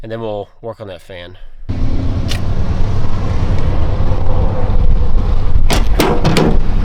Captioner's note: engine Revving